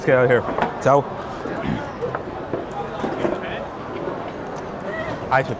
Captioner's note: glass thuds; chair clattering